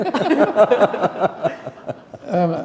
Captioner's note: laughter